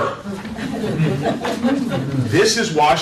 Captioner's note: laughter